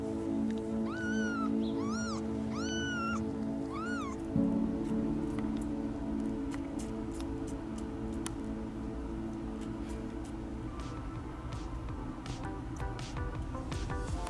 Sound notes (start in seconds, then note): 2.4 meows; 7.9 suckling